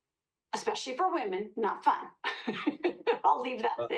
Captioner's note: laughs